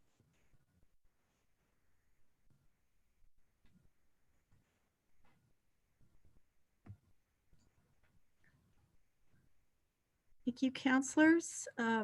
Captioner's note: moment of silence